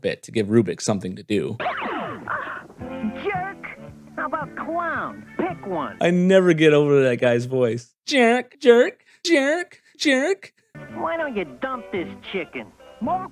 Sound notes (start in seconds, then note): 1.6 laser blasting